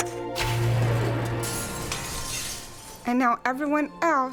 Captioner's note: glass shattering